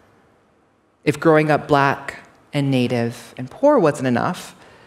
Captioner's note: none